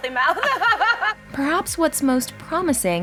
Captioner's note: chuckles